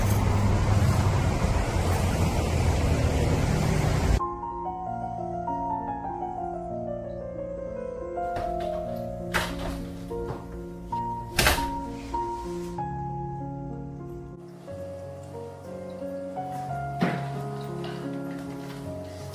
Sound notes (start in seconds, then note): 4.5 classical music; 8.6 door clicks open